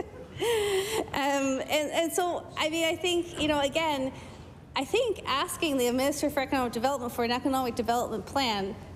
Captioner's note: laughter